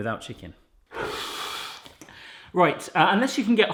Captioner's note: blowing